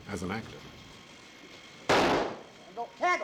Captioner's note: gunshot